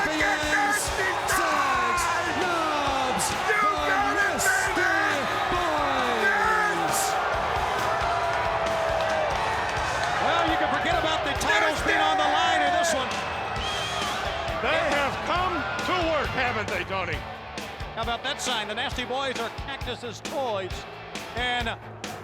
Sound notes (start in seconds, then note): 7.0 crowd chatter